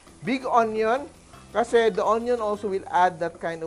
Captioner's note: sizzle